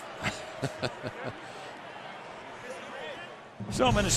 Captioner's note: chuckles